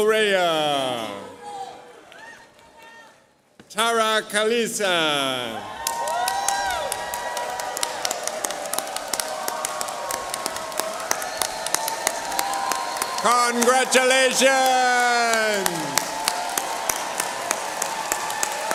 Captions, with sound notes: [CHEERS] Congratulations! [APPLAUSE]